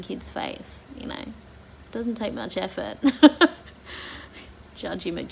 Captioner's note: laughs at own folly